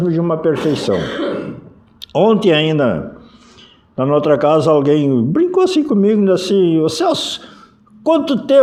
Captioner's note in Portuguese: limpando a garganta